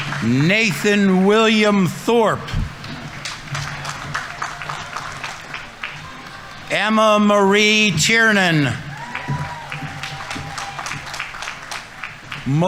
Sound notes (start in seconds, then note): 2.8 audience applauding; 9.1 audience applauding; 9.1 audience members cheering